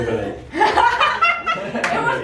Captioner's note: laughter